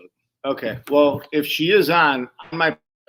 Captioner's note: audio glitches